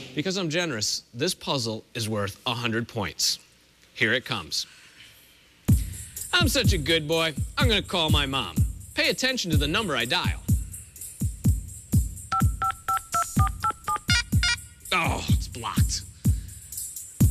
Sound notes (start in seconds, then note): 12.3 phone beeping